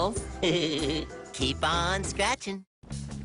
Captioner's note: giggles